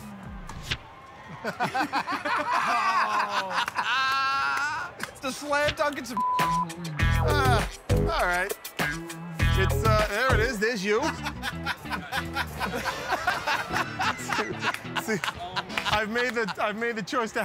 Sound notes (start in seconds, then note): 1.3 laughter; 10.8 laughs